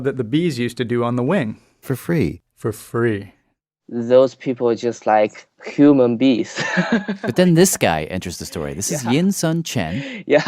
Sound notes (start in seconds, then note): 8.4 laughs